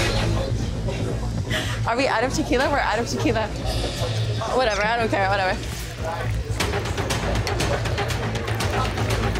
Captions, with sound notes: (laughs) Are we out of tequila? We're out of tequila. Whatever. I don't care. Whatever. (tense music)